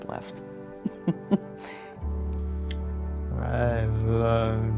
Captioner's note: laughs